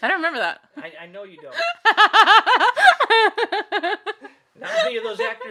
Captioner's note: laughing